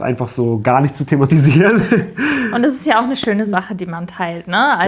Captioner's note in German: gelächter